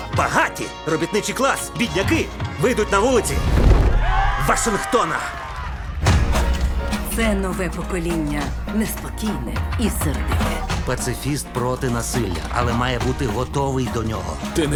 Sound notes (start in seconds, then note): 3.9 all cheer